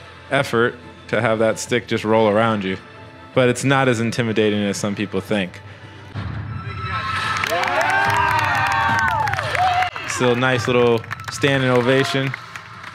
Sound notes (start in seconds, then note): 6.8 cheering